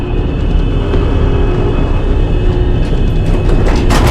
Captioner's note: elevator heading back down